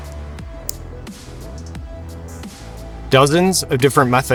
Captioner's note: watch clicks